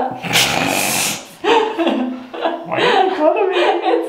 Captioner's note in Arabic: شخير